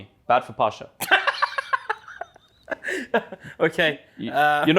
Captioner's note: laughs